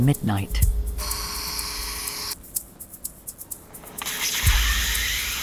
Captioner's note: drill whirring